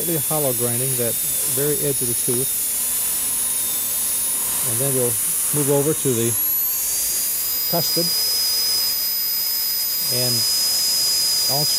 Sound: drilling sound

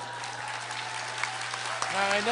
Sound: applause

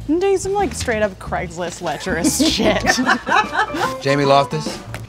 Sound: laugh

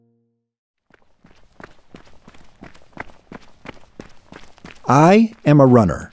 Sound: footsteps thumping

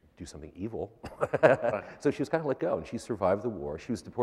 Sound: laughter

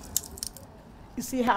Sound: nat walking on glass

